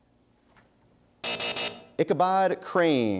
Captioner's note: buzzer sounds